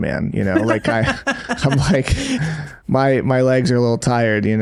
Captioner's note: laughing